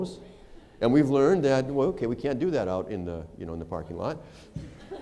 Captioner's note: laughter